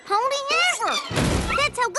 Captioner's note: crash